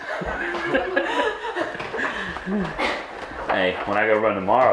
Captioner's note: laughs